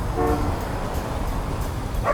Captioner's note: horn honking